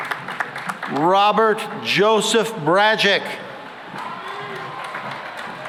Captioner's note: cheering and applause